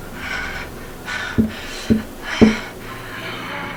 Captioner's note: tapping